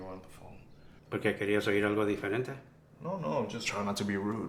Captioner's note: Spanish